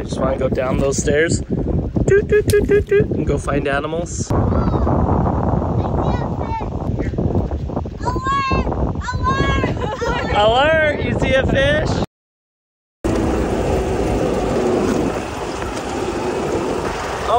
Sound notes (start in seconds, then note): 4.5 wind rushing; 13.0 engine revving